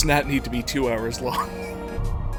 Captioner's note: wheeze